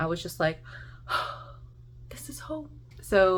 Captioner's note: deep sigh